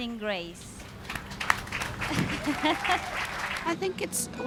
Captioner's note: audience cheers, performer laughs